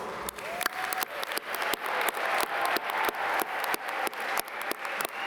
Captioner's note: audience cheer and applaud